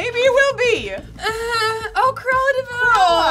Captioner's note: squeals